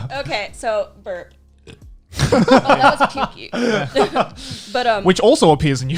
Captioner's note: groans